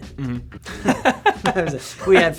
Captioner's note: laughs